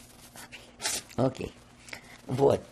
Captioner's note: sniffling